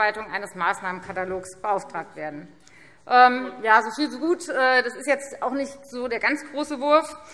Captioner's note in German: none